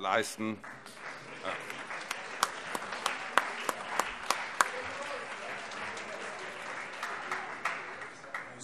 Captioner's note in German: Allgemeiner Beifall